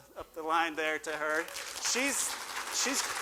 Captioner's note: applause